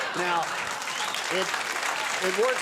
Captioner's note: audience laughing; applauding